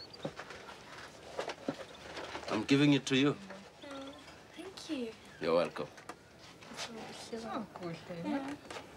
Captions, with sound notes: [in English] I'M GIVING IT TO YOU. THANK YOU. YOU'RE WELCOME.